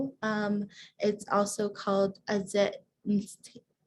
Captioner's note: speaking foreign language